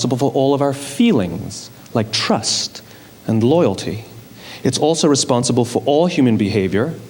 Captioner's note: none